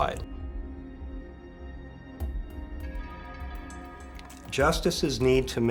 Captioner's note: sound effects playing